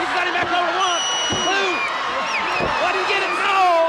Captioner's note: crowd cheering; crowd whistling